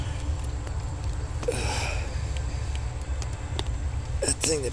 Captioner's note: grunts